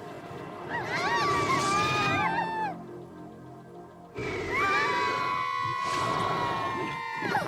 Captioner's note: screams